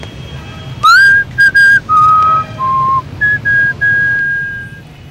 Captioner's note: whistle